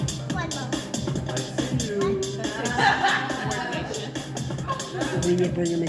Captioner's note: audience laughs